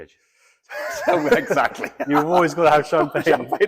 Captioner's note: laughing